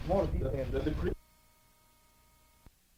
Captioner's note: static